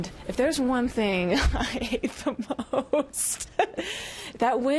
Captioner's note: laughs